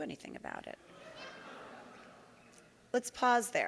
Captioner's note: audience gasping